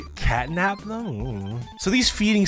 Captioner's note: grumbles unknowingly